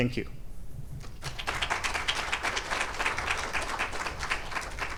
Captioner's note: audience applauds